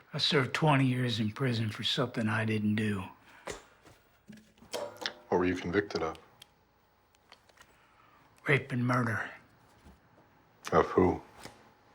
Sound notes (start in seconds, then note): 6.3 flashlight clicks on and off